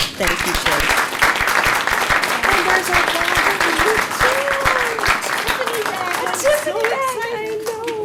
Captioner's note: applause